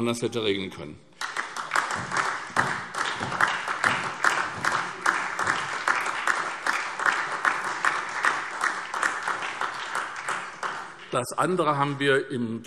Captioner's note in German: Beifall SPD und DIE LINKE